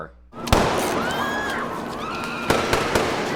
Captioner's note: gunshots, screams